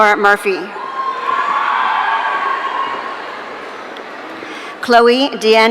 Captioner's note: audience cheering